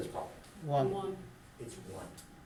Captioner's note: voiceover